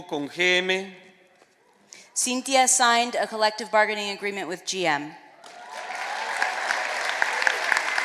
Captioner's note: speaking spanish